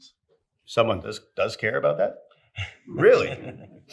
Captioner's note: chuckles